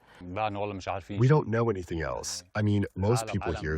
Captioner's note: through translator